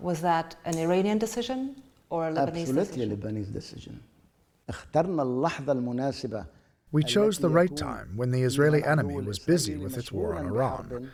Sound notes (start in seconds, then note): 7.2 through translator